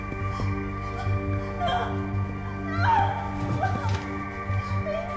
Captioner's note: Gabriella sobbing